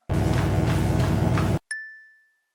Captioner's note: electric buzzing; bell dings